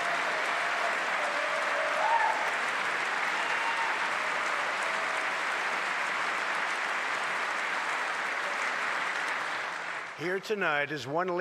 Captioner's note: applause